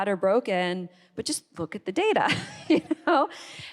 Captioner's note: laughs